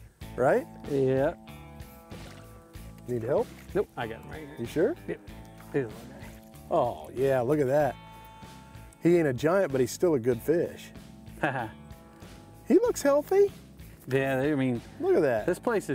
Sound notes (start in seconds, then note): 11.4 chuckles